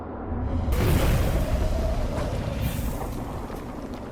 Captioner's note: fire erupting